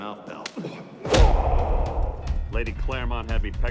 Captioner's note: groans; swing music plays